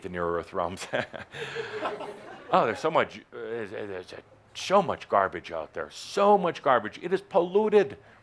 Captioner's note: chuckles